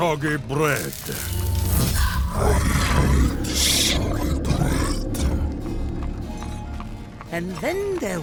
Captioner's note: magic charging